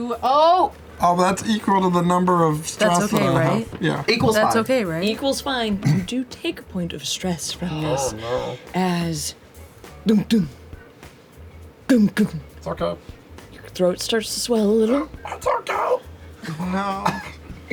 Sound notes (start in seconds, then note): 10.0 heart beat; 14.9 choked